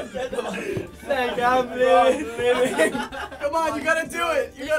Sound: laughter; laughter

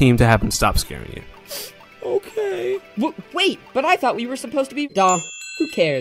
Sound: sniff

